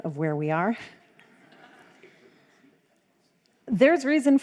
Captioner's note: crowd laughs